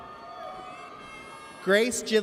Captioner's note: audience cheers